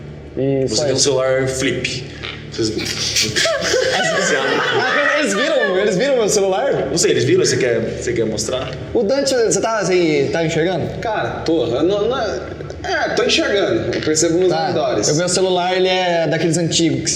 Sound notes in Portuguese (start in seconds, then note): 2.8 risadas